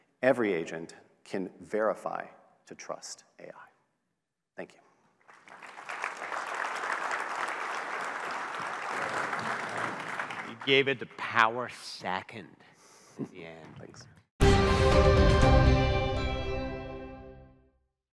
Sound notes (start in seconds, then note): 5.2 audience clapping; 14.4 bright music